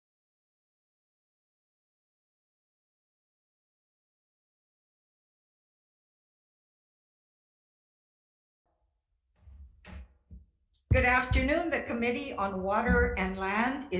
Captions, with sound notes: (gavel bangs) - Good afternoon. The Committee on Water and Land